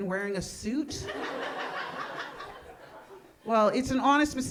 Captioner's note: audience laughing